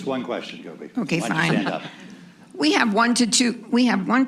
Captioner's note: laughter